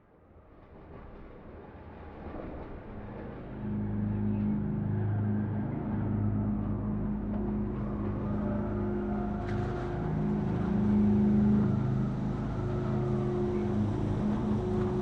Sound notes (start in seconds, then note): 0.2 suspenseful music; 6.6 wind howling